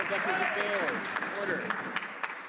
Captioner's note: some Applause